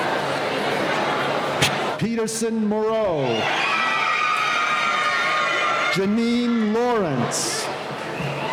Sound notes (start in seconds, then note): 3.2 cheering